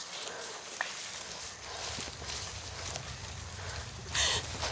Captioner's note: rumbling